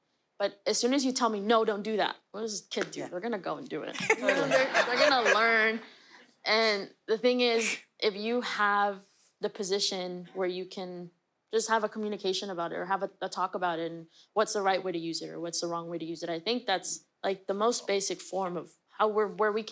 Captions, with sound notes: But as soon as you tell me, no, don't do that. What does a kid do? They're going to go and do it. [LAUGHTER] They're gonna learn. And the thing is, if you have the position where you can just have a communication about it or have a talk about it and what's the right way to use it or what's the wrong way to use it? I think that's, like, the most basic form of where we